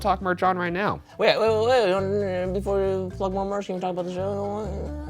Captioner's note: stuttering